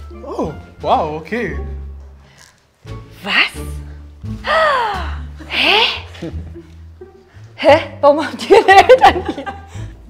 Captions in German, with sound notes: Oh, wow, okay. Was? (Erstaunter Laut) Hä? Hä, warum habt ihr ...?